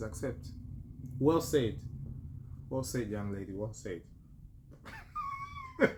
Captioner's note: laughter